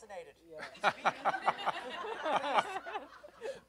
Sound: laughter

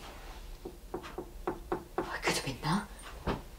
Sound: knocks on wall

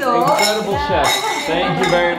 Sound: glasses clinking

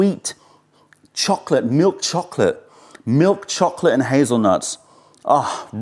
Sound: sips tea; sips tea

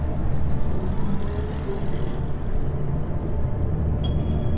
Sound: engine rumbling

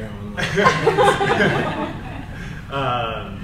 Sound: panel laughs

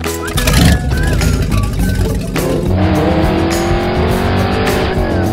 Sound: engine revs loudly

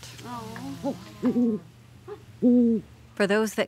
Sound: owl hooting

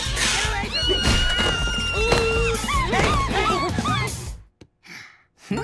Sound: screaming

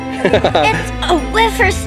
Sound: laughing

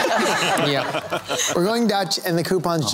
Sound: laughter

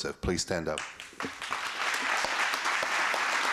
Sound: applause

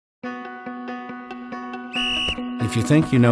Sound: uplifting music; whistle blowing

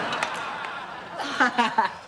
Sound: laughing

